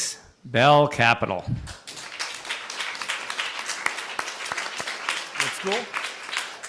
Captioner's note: applause